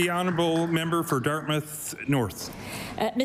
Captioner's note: applause